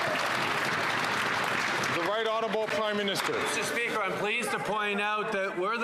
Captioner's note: some Applause